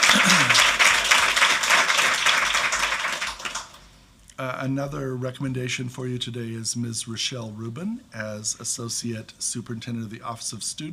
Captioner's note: applause